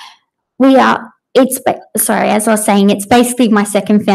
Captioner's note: stutters